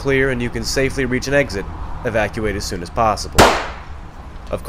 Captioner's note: gunshot